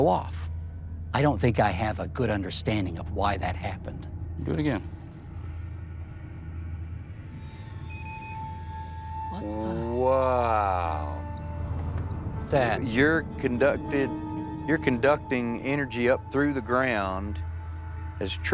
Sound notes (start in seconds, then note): 7.3 beeping